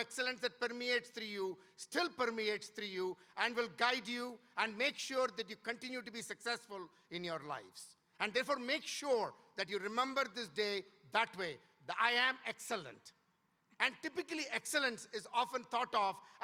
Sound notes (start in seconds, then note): none